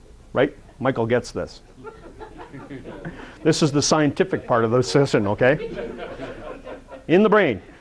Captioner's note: audience laughter